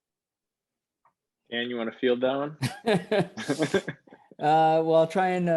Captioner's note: laughter